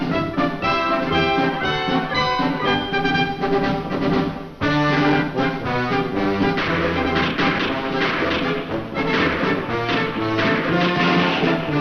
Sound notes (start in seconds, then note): 6.3 gunfire